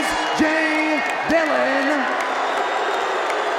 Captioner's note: crowd boos